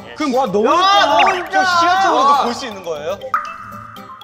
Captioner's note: the building owners complaining